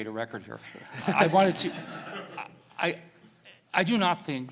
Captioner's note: audience laughs